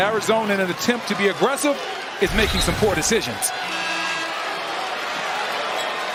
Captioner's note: buzzer